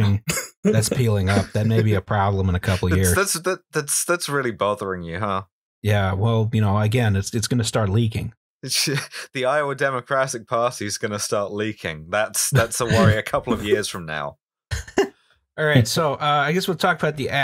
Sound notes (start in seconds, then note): 2.7 laughter; 12.4 knowing laugh; 15.0 laughter